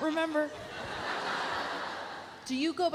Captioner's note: audience laughs